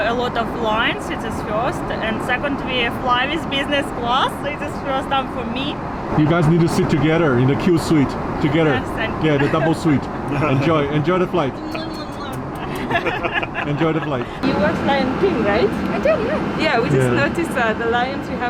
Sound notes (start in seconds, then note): 9.3 chuckle; 11.7 blowing kisses; 12.4 both laughing